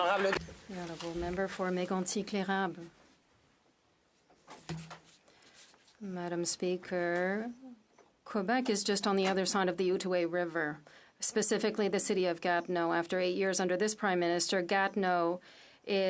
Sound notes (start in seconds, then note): 3.3 speaking French